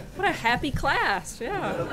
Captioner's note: laughter